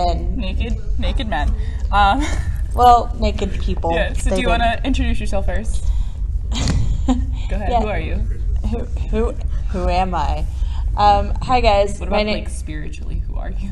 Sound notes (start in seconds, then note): 6.5 laughs